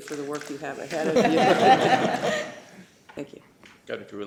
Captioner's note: laughter